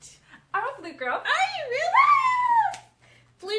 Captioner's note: both screaming excitedly